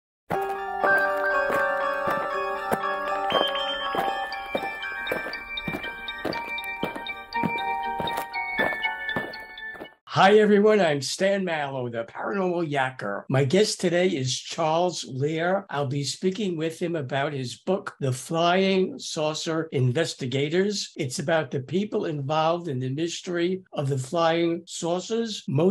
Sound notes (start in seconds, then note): 0.3 eerie music; 5.1 aliens marching